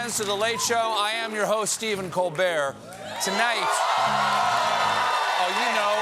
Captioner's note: cheers and applause